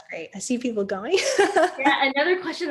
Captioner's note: laughs